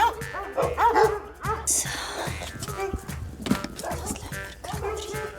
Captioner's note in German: Flüsternd